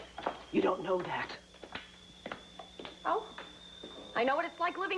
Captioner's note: teapot whistles